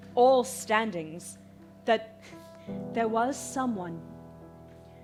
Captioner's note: none